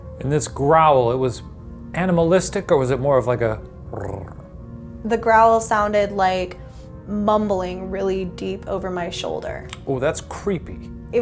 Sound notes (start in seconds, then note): 3.8 purrs